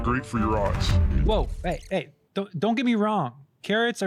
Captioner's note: normal voice